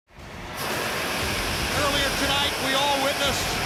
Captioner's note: smoke hisses